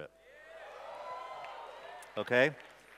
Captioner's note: cheers